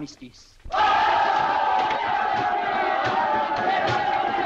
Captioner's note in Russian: крики радости